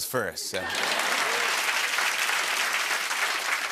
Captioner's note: laughter and applause